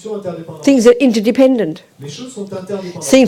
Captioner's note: French